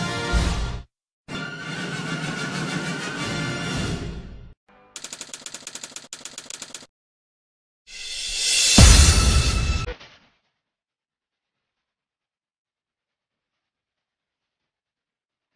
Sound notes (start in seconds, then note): 5.0 typewriter keys clicking; 12.3 silence